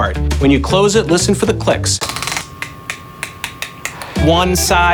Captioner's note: belt clicks